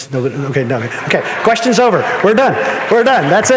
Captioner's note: audience laughing